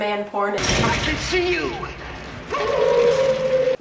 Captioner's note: howls